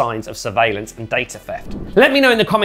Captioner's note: air swooshing